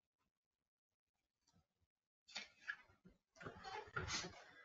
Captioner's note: papers shuffling